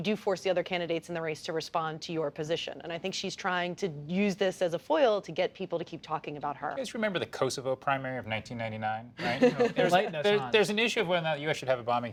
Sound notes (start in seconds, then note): 9.2 laughter